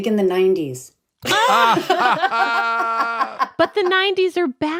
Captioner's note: laughing